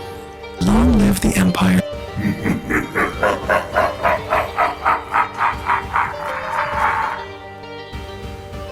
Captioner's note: lets out an Evil laughter